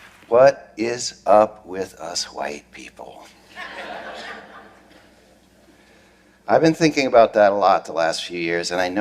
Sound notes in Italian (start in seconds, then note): 3.5 Risate